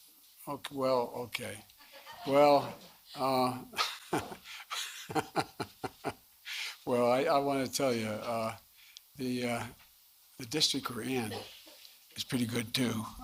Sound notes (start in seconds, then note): 2.0 laughter; 3.1 laughs